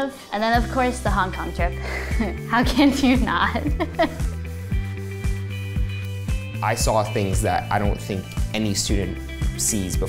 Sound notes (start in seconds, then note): 3.5 laughing